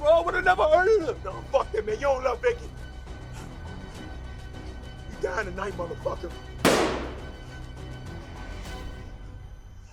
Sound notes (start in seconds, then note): 6.6 gunshot